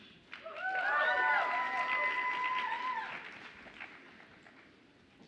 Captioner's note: audience applauds and cheers